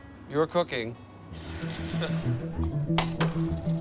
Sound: mark chuckles

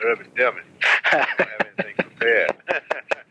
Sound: laughs

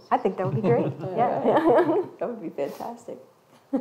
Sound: chuckles

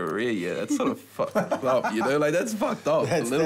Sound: man laughs

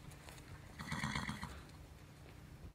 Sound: horse nickers

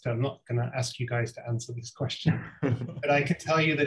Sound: all laughing

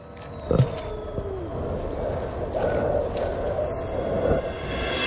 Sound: heavy breathing

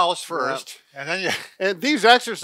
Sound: chuckles

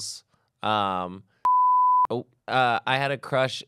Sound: beep

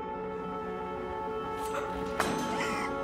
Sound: sound of panic & the drop of metal knife to floor

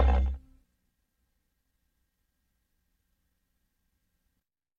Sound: digital synth music playing; quiet VHS static

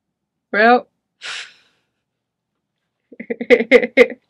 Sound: chuckling

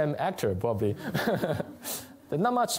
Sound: laughter

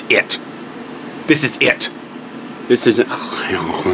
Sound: moans

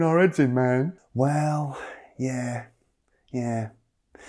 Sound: sigh

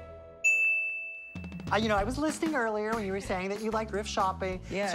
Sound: none

